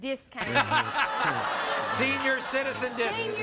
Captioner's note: audience jeering and laughing